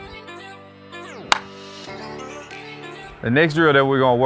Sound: ball cracks

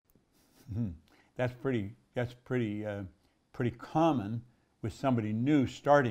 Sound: laughs

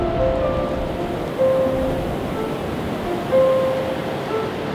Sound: ocean bubbling

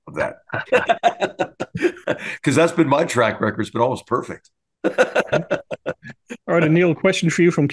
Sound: laugh

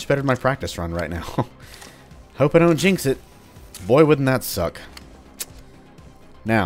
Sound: chuckles

